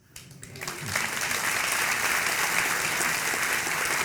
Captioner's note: audience clapping